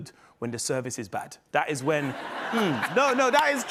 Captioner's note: laughter